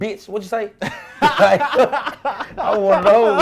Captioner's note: laughing